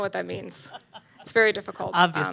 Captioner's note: laughs